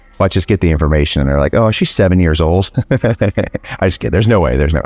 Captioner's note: laughs